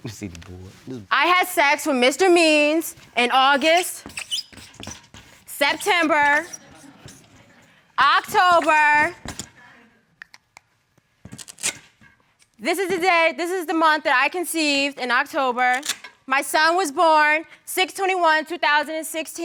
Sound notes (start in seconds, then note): 1.9 scribbling